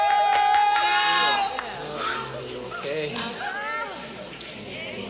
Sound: hands clapping

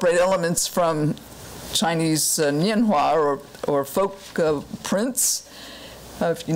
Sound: foreign language

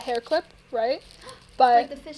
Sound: gasp

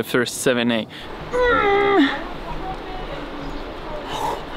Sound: grunts; pants

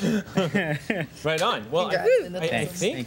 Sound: laughter

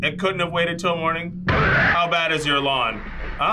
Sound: loud scream

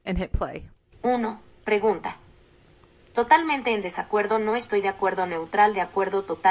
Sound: immersive reader speaking Spanish

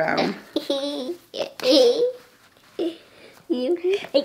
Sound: laughs

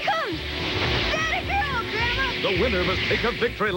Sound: blizzard wind sound as door opens

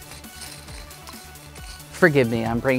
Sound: game pieces rattling

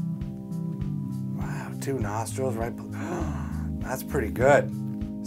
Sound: gasp

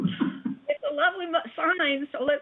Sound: laughter

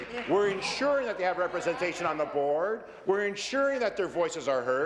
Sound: applause

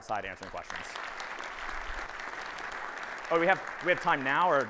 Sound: audience applauding

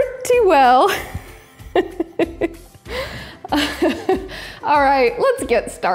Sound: laughing loudly

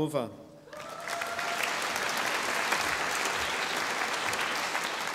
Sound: audience applauding

